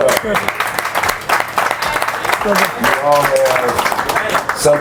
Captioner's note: applause